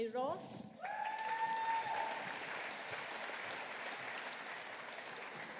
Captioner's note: audience applauding